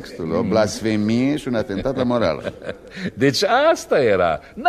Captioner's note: laughter